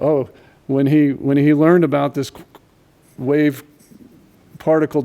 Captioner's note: none